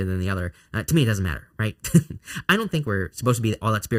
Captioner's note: chuckles